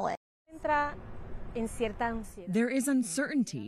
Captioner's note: woman speaking in foreign language